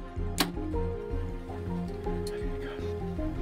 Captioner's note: arrow shot